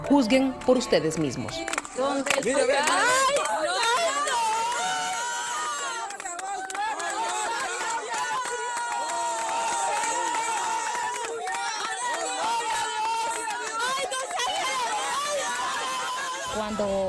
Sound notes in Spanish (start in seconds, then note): 7.7 gritos